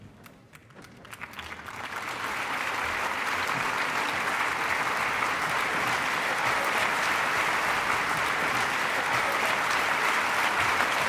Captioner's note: applause